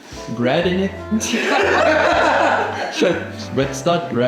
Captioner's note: laughs